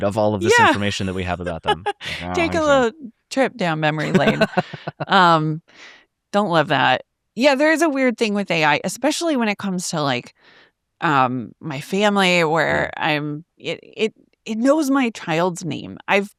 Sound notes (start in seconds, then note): 0.4 laughs